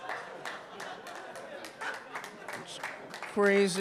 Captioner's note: audience clapping